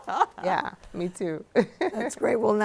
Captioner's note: laughing; laughs